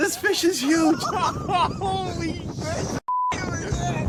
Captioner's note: beep